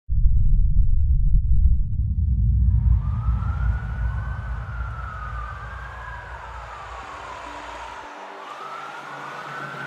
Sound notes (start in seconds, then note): 3.0 sirens wailing; 7.3 tense music